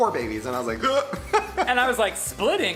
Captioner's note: gasps